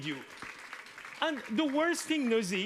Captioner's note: audience applauds